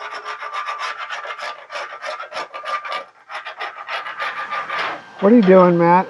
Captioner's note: metal chassis scraping